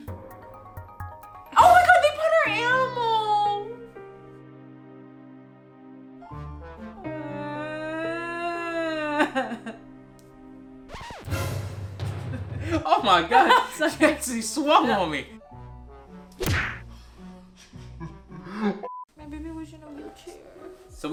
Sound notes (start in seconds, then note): 0.0 suspenseful music; 2.6 sad piano music; 7.7 sobs loudly; 10.9 record scratches; 10.9 suspenseful music; 16.4 punches loudly; 17.8 laughs